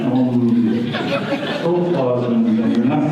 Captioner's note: audience laughter